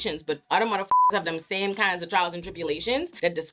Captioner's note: beep